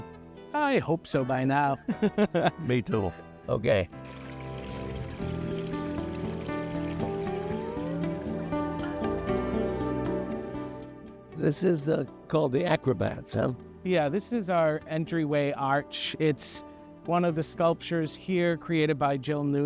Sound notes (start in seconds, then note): 4.0 streamwater falling; 7.4 animals calling